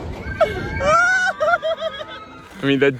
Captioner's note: screaming; laughing